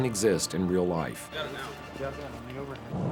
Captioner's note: chattering